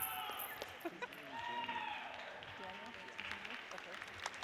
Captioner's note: laughs